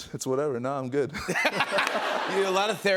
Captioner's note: laughter